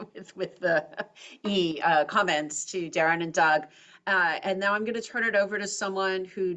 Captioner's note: laugh